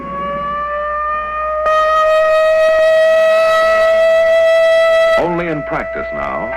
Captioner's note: air raid sirens sound